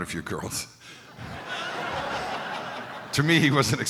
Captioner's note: crowd laughing